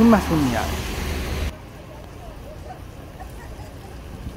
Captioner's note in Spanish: sonido ambiente del bus y lluvia